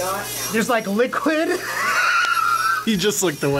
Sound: laughs

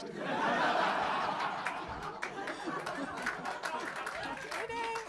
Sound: laughter & applause

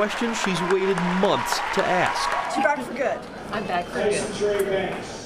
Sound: applause

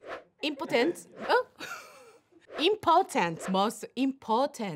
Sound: laughs

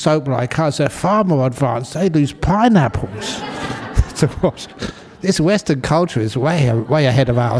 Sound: laughter

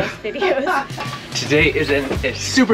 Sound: laughing

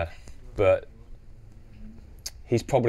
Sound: smacks lips

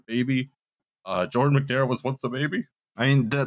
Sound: choking up

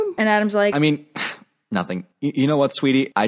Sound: sigh

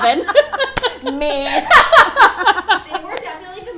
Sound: laughter

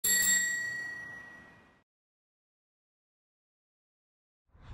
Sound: bicycle bell ringing

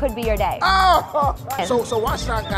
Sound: exclaims

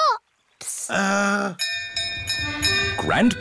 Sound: bell rings

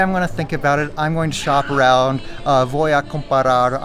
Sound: speaks Spanish

